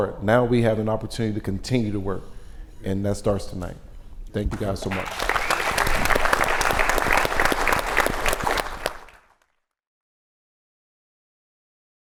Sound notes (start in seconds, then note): 6.4 audience applauds